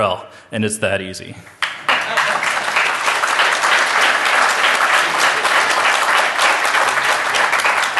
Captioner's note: applause